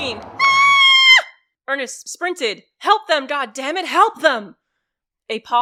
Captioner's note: a scream